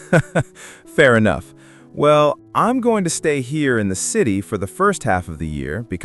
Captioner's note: laughs